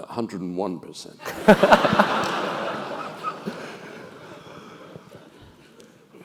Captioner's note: laugh